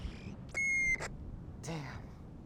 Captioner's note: beep